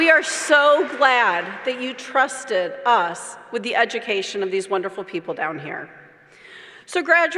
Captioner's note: applause